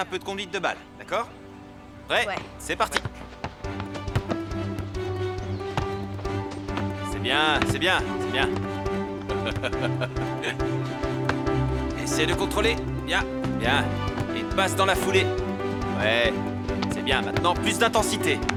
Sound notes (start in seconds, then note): 4.0 upbeat music; 9.1 laughing